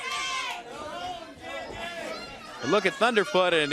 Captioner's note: crowd cheering